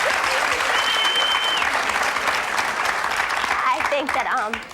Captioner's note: audience applauds